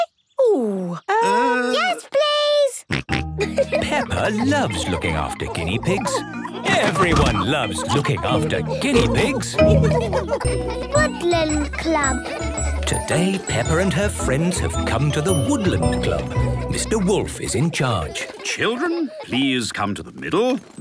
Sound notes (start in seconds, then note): 2.7 snorting and giggling; 9.7 laughter